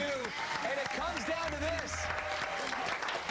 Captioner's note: applause